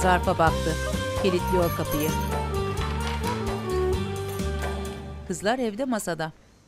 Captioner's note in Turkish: Anahtar sesi; Kapı kilitleme sesi